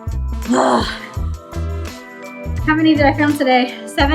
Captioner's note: grunts